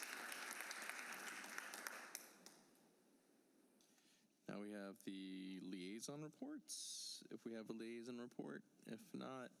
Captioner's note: applause